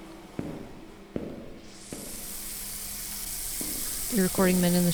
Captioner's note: steam, shower running